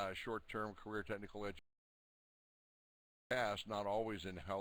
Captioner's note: audio drops